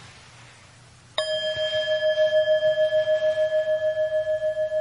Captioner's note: bell chiming